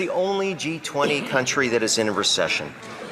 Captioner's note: some Applause